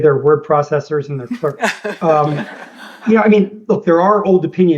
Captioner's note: laughter